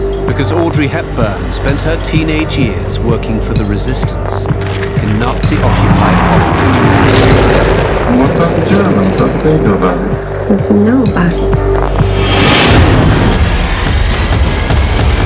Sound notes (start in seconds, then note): 6.7 explosion booms; 6.7 plane roaring; 12.2 dramatic music